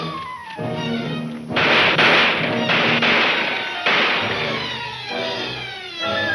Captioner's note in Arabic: البنادق تطلق النار بشكل عدواني